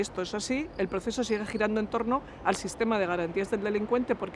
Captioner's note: Spanish